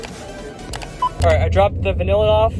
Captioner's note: item scans, mouse click